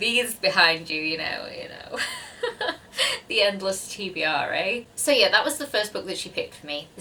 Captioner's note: awkward laughter